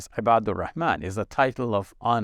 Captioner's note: speaking Arabic